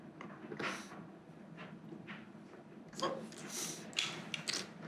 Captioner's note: gentle crying